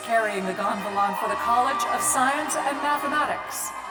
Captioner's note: cheers